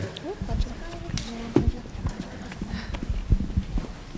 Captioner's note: audience murmurs